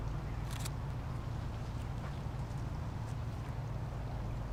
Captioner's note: camera clicking